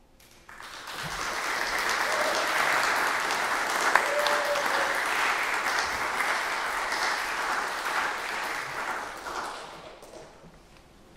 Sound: applause

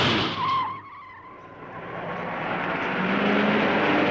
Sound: tires screeching

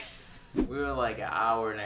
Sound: laughing

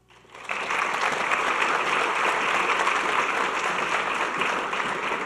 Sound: audience clapping

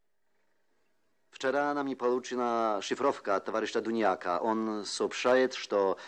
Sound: with a Polish accent

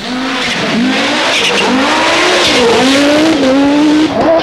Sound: car engine revs

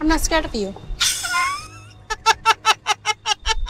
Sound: laughs

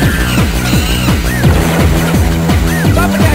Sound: explosion

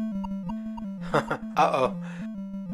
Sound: laughs

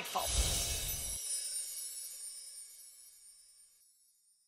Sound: chime's ringing

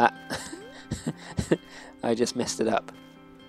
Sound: laughs

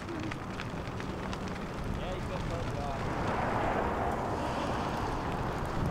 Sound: fire crackling

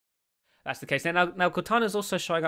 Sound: voiceover

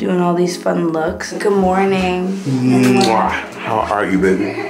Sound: kissing

